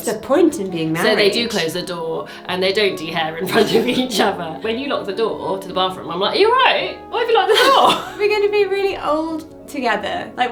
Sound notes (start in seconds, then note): 3.2 laughs